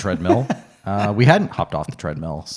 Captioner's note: laughs